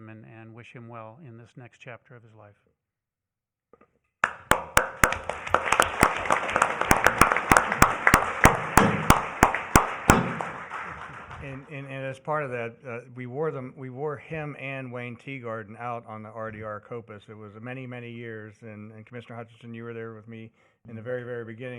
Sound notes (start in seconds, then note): 9.8 applause